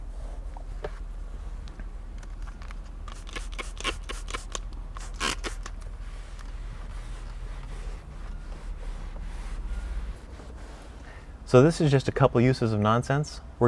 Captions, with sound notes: (bottle squeaking) (cloth scrubbing) So this is just a couple uses of Nonsense.